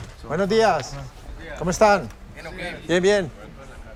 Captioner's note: Spanish spoken audio